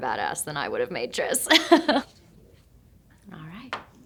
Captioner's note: Shailene chuckling